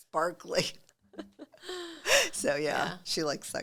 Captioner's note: both chuckling